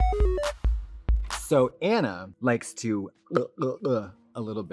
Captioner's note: bright, chirpy music; imitates gulping